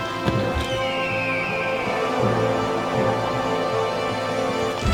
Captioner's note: eagle screeching